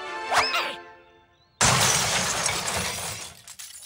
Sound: crashing

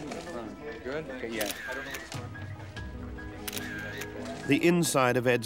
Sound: camera flashing

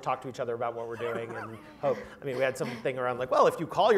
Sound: laugh

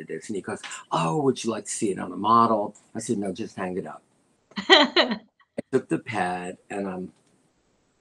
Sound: laughter

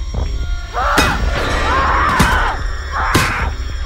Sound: yelling and grunting

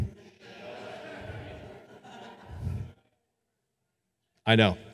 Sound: audience laughing

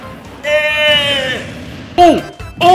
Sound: Dunkey screams in dispair

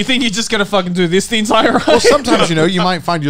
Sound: laughing

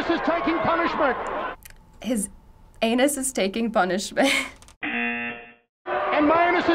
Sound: buzzer

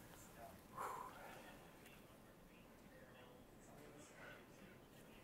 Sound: male commentator sighs

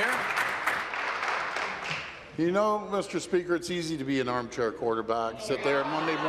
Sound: applause

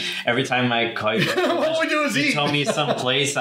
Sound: laughs

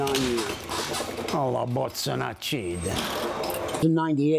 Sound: cursing in Italian

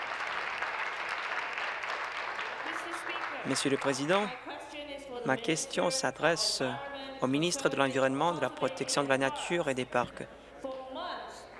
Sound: applause

